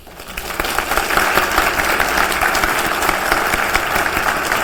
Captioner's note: applause